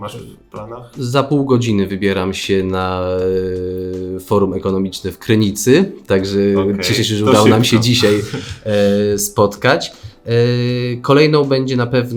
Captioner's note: laugh